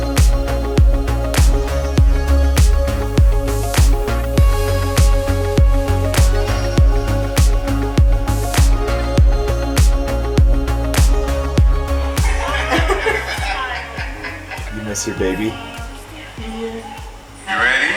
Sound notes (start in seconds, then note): 3.3 upbeat music continues; 12.3 laughs